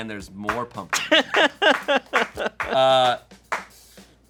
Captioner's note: laughs